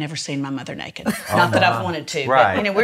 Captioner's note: laughs